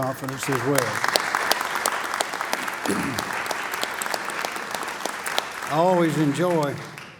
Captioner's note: applause